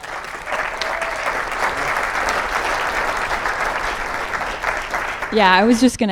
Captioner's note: clap